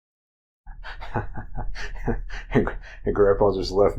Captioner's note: chuckles